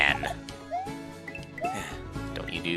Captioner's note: sigh